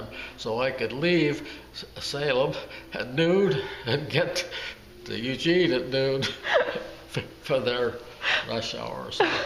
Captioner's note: laugh